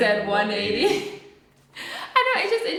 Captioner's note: chuckles